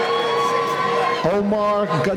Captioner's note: cheering